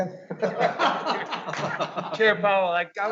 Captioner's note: audience laughing